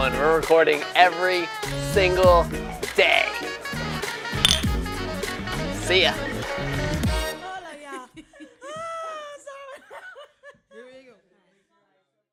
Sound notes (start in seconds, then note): 4.4 glass clinks